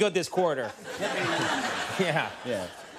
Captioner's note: audience laughing